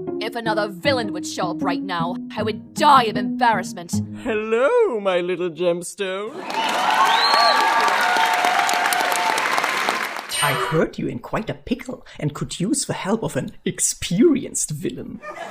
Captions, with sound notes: If another villain would show up right now I would die of embarrassment! Hello my little gemstone! *audience cheering* I've heard you're in quite a pickle and could use the help of an experienced villain.